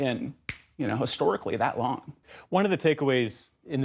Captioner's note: snap fingers